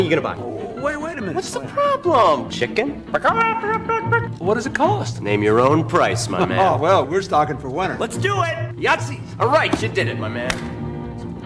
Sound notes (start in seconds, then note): 3.3 makes chicken noises